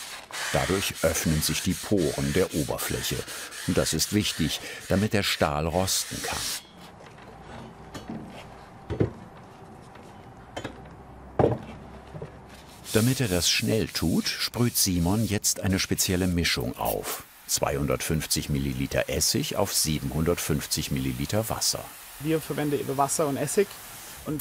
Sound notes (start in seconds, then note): 7.8 metal rattling